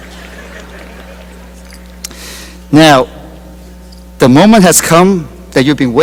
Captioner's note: laughter